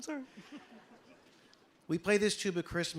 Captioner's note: audience laughing